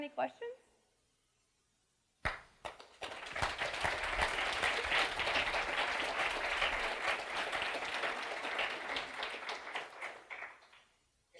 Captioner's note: applause